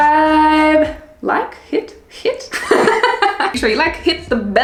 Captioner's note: laughs